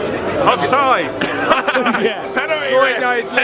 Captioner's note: laughing